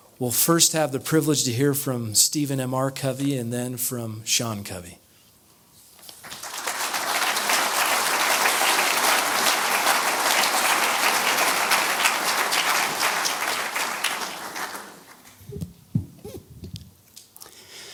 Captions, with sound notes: We'll first have the privilege to hear from Stephen M.R. Covey and then from Sean Covey. [audience applause]